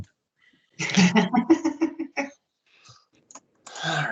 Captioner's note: laughing